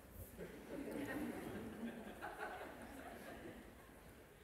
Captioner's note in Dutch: gelach